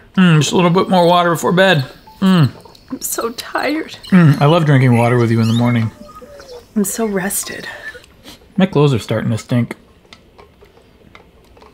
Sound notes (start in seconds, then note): 5.8 birds chirping